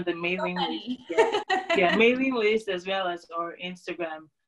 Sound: laughter

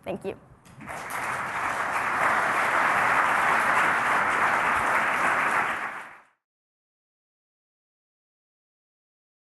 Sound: applause

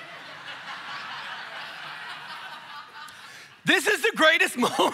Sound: congregation laughing

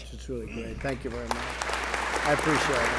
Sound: applause

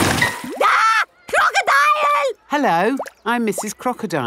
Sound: screams

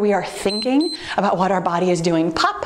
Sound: timer beeps

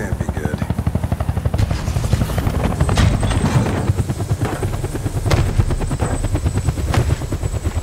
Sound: footsteps

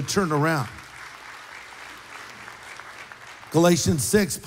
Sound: applause

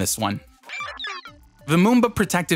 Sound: digital sounds

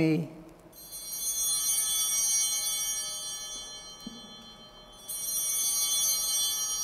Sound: chimes ringing

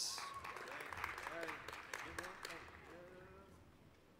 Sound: applause

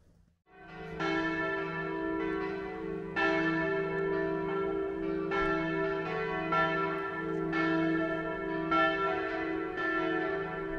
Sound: view from above and church bells sounds⛺☕️

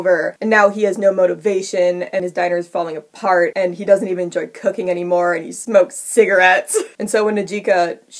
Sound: laughs

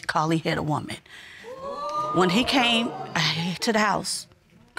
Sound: audience exclaiming

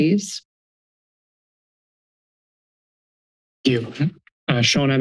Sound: silence

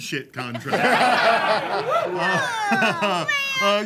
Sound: laughter

